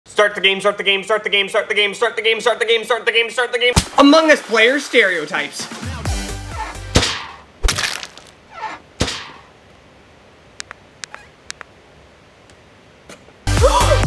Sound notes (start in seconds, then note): 5.6 upbeat music; 7.6 splat; 7.6 slashing; 11.4 clicks volume down; 13.4 upbeat music